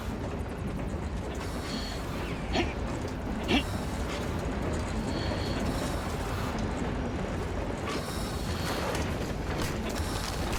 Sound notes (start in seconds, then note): 2.4 Groans